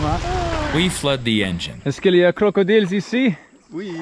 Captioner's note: speaking French